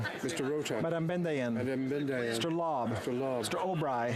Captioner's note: speaking French